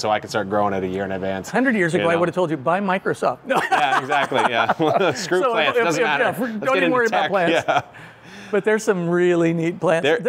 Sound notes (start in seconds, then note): 3.5 laughs